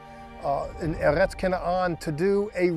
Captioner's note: speaking Hebrew